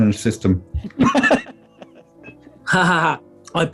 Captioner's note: laughing